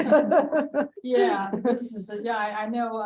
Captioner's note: laughing